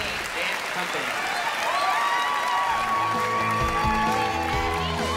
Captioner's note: cheers and applause